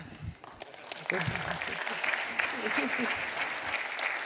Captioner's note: applause